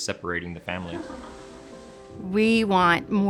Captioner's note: laughing